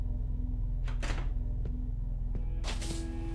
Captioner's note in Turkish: Kapı açıldı